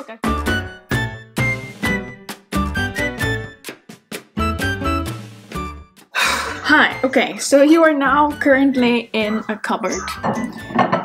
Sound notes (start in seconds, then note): 0.0 upbeat music; 6.1 sighs